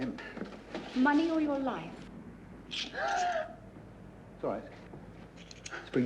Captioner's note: gasps